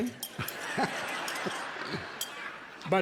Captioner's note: everyone laughing